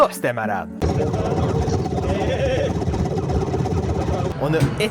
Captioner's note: cannon noises